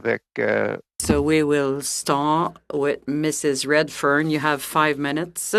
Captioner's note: speaking french